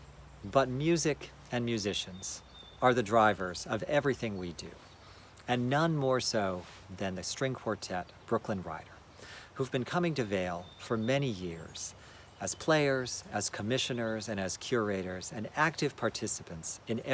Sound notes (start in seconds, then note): none